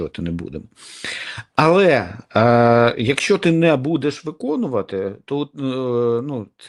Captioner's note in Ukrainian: сопіння